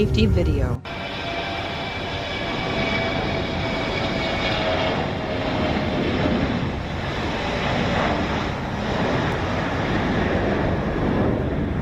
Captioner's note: the jet takes off